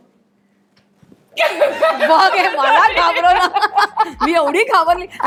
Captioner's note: laughter